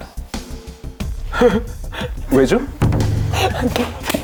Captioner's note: laughs